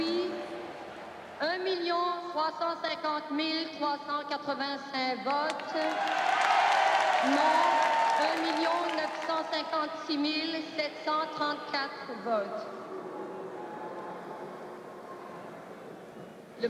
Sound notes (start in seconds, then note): 0.0 people cheering; 0.3 speaking foreign language; 5.4 people cheering; 9.2 speaking foreign language